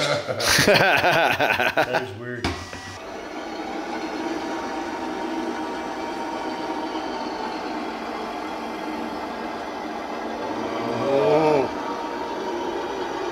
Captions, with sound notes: (laughing) - That is weird. (truck whirring)